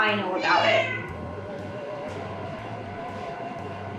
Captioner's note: cat meowing